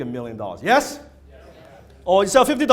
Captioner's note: crowd